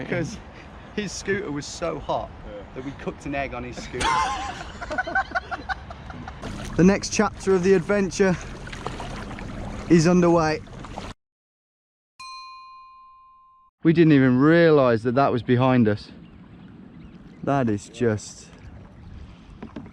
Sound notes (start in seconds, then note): 3.8 laughing; 12.2 bell dings